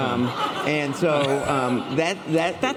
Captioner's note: laughter